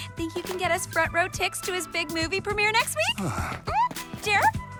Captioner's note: sighs